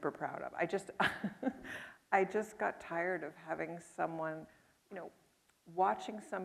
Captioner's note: chuckles